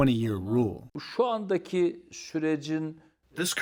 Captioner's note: through translator